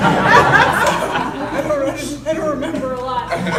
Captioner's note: panel and crowd laughing